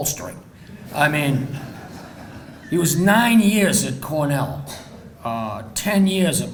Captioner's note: audience laughing